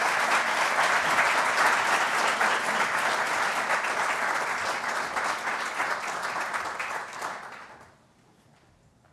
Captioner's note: applause